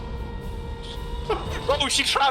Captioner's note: laughs